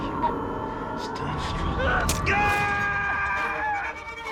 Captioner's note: cris fort; musique tendue